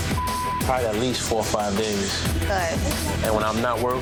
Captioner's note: beep